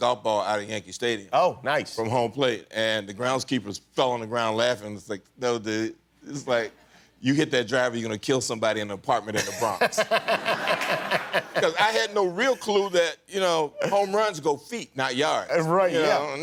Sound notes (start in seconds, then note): 9.3 laughter